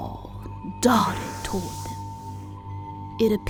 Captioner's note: light whooshing